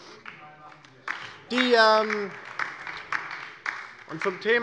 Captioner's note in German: Beifall DIE LINKE - Zuruf AfD: Genau das Gegenteil ist der Fall!